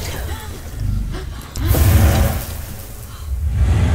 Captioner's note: dramatic music; gasping; dramatic music